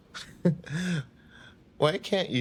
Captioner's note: Oliver laughing